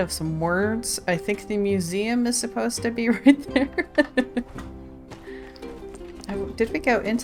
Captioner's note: laughs